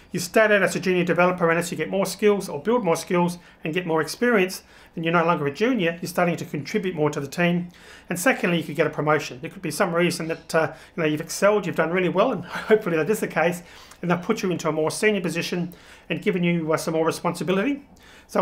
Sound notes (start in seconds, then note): 12.4 chuckles